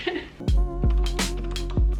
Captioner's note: speaker laughing; upbeat music